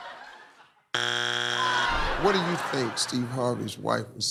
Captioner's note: buzzer